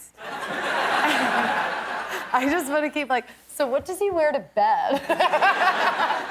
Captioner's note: laughter; laughter